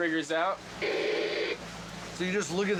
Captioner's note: static white noise